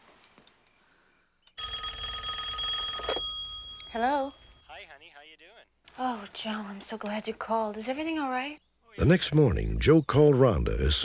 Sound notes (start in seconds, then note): 1.5 phone ringing; 3.8 on phone